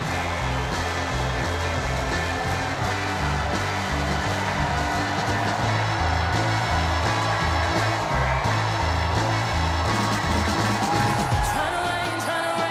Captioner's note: cheers and applause